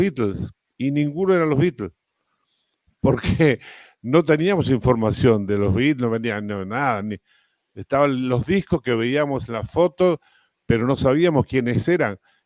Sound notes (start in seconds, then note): 3.2 ríe